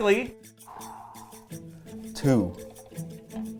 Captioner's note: spinner whirring; playful instrumental music